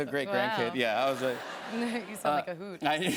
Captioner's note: laughter